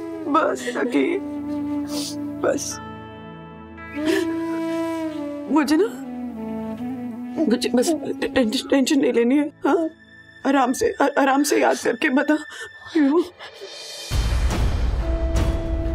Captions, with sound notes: Don't cry, Sakhi. Relax. [sobbing] I... Please don't take tension, okay? Just relax and try to recollect... [tense music playing]